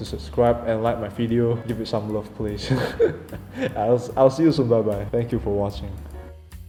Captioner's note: hehehe